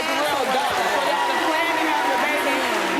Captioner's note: audience cheers